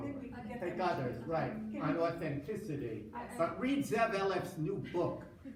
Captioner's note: foreign language